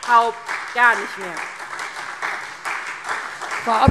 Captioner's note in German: Beifall SPD